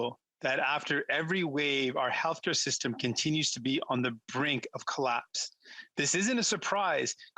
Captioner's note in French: voix de interprète